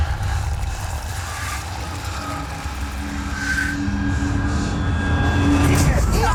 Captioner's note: distorted rumbling, screeching; frightened breathing; screaming